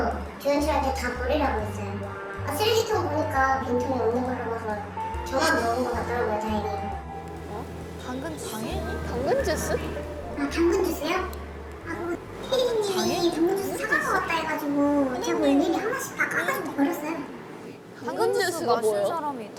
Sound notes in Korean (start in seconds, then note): 11.7 흐음